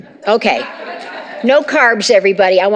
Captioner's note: laughter